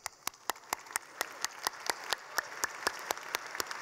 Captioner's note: clapping